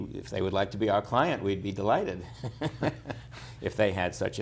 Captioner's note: laughter